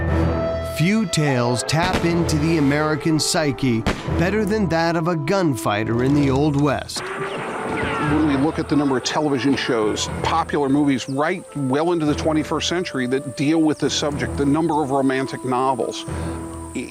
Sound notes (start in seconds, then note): 0.0 dramatic music; 1.8 gun pops; 7.0 guns firing